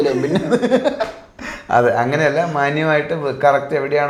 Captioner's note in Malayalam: പൊട്ടിച്ചിരി